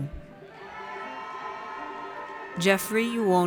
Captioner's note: audience cheers